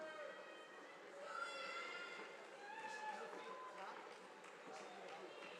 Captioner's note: crowd cheering